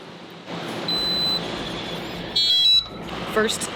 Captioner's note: alarm beeps